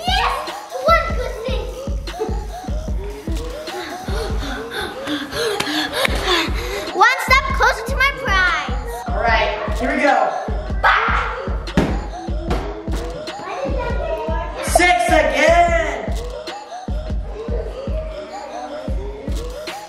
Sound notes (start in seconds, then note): 5.0 gasps; 11.7 giant cube hits floor; 16.3 upbeat music